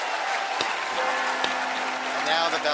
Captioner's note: bells tolling